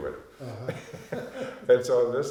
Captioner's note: both laughing